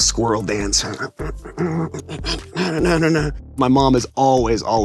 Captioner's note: humming